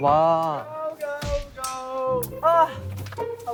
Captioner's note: smack